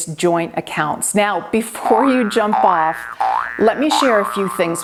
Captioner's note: spring boinging